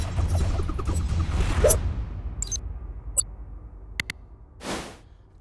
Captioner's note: shuriken whooshing